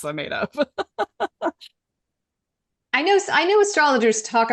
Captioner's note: laughing